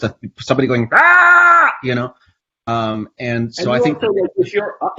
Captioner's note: imitates screaming